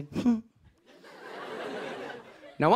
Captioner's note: laughter